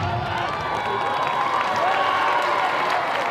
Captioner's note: applause